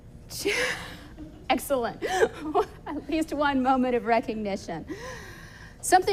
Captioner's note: laughing